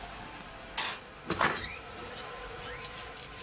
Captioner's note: door opens